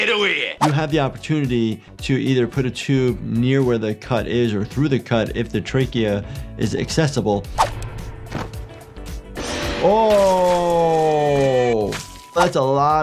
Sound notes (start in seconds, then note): 8.9 animatronic roaring; 8.9 blood spraying